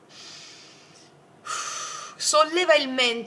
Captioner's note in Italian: sbuffare